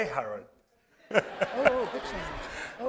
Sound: laughter

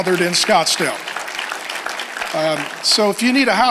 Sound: congregation applauds

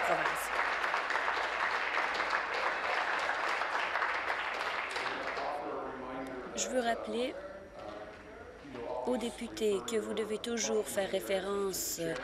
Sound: applause

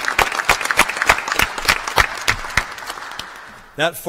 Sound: applause

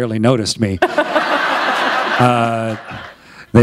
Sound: laughter

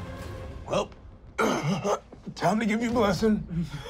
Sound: sighing

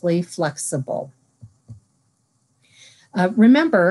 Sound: silence

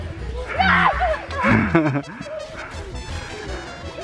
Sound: screaming

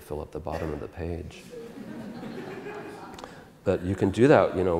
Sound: audience Laughter

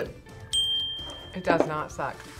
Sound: bell rings

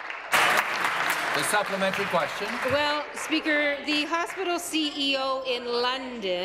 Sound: applause

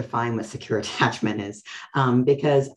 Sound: laughs

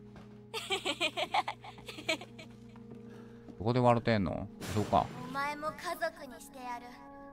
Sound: laughs

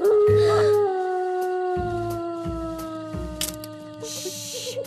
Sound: dog howling

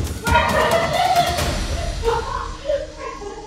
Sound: both laughing

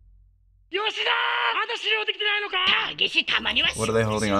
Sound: arguing in Japanese

